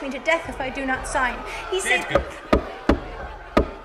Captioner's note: The crowd erupts. Jonathan Corwin bangs his gavel